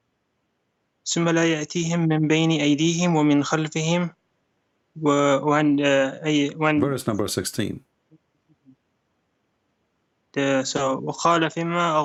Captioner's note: membaca Quran dalam bahasa Arab